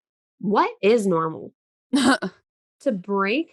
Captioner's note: chuckles